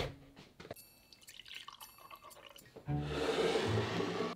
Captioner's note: liquid pouring